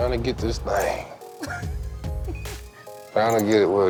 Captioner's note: laughter